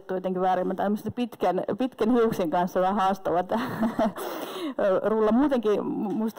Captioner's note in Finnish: naurahtaa